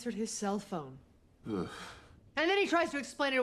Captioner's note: groans